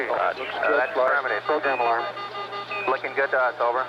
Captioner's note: alarm beeping